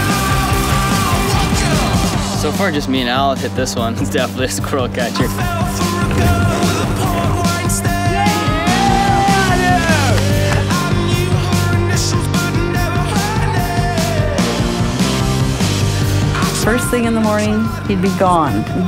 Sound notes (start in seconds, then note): 5.5 bike whizzing over ramp; 9.6 friends exclaiming